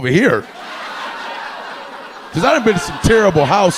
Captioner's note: audience laughing